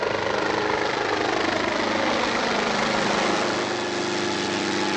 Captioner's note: helicopter passing